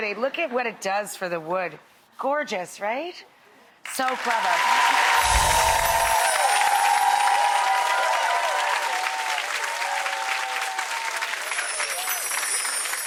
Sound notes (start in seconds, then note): 5.1 crowd clapping; 6.5 crowd cheering